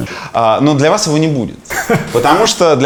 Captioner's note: Navalniy laughs